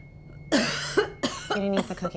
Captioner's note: Janet coughing